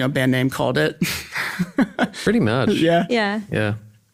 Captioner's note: laughs